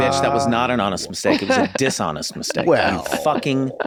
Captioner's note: laughs